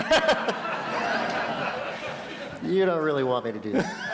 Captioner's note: laughter